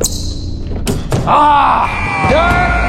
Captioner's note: dunk sound